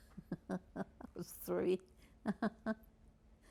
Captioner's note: laughing